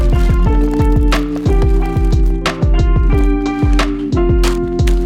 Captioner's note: grocery bags crumpling